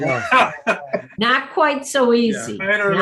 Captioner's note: laughing